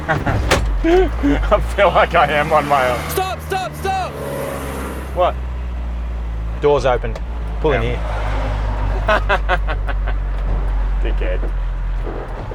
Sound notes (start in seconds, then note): 0.8 laughing; 3.0 yelling in the background; 9.8 laughing